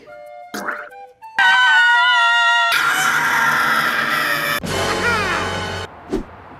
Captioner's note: A lot of screaming